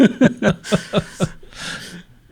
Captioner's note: both laughing